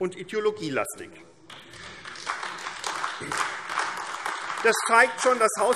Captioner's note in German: Beifall AfD